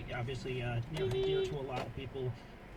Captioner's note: beepbeep